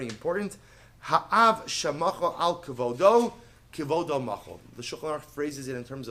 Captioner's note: Hebrew